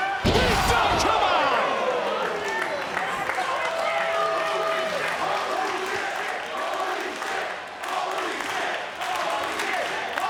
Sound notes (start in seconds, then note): 2.8 crowd murmuring; 5.7 crowd chanting